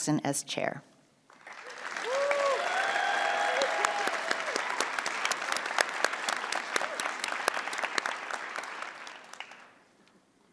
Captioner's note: cheering and applause